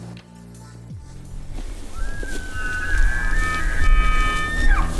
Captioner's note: bull elk bugle